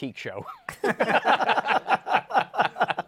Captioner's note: laughter